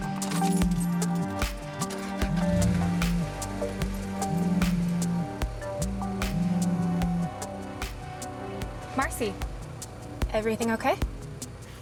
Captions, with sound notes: (phone vibrates) (car starts) (phone vibrates) Marcie. Everything okay?